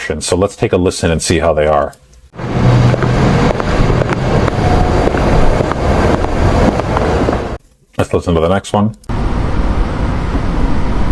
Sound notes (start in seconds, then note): 2.3 sound of city